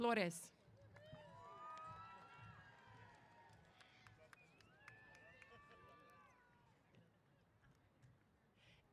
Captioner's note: applause & Cheers